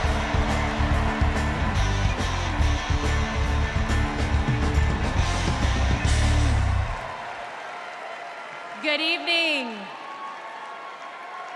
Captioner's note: cheers and applause